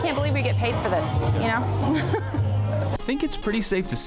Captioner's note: laughing